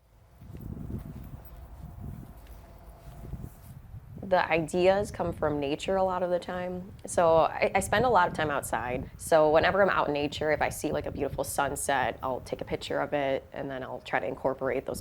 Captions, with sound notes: (wind whooshing) The ideas come from nature a lot of the time, so I spend a lot of time outside. So whenever I'm out in nature, if I see like a beautiful sunset, I'll take a picture of it and then I'll try to incorporate